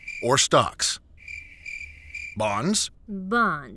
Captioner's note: crickets